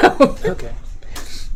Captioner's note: laughs